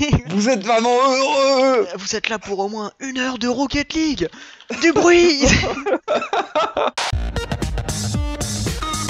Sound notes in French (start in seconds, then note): 4.7 rires